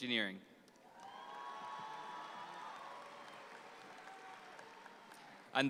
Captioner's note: audience applauds